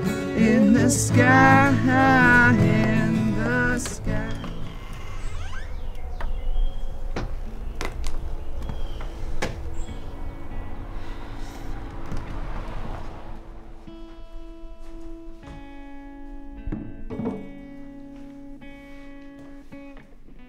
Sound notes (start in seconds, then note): 5.1 door creaks; 10.4 sigh